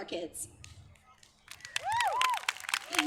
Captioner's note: applause